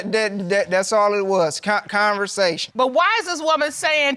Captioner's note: stammers